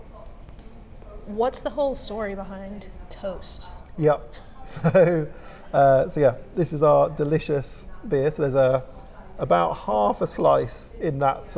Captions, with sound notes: What's the whole story behind Toast? - Yep, so, (chuckles) so yeah. This is our delicious beer. So there's about half a slice in that.